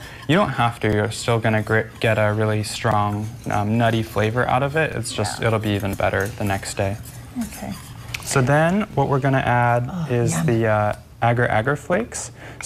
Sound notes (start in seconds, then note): 7.2 whisking Sound